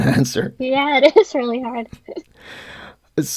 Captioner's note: laughing; laughs